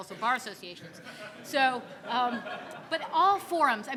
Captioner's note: audience laughing